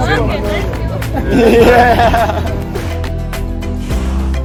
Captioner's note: laughing